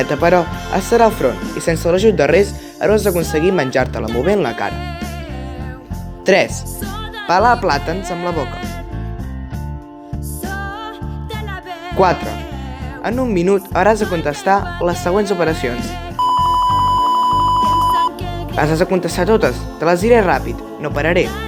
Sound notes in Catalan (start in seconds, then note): 16.2 diversos bip molt ràpids